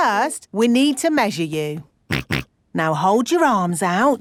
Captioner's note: snorts